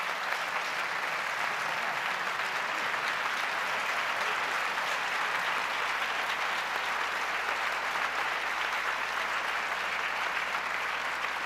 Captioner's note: applause